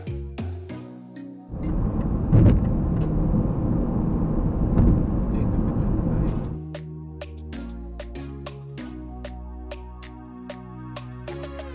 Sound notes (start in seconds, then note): 1.5 wind gushing; 6.3 upbeat music